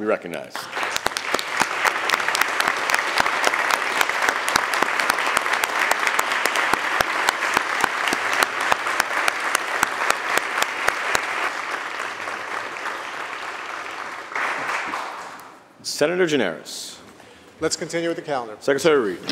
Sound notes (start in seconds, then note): 0.5 applause